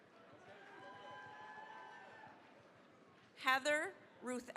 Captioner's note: cheering, applause